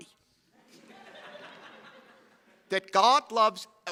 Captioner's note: chuckling